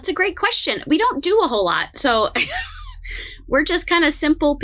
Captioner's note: laughs